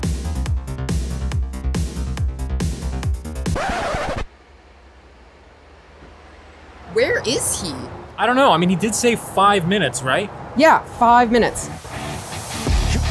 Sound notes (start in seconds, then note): 3.4 record scratching; 11.6 intense music